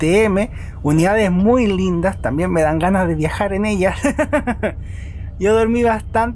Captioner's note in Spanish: risas